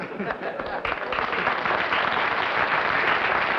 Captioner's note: applause